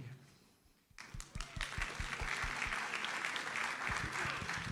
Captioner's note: audience applauds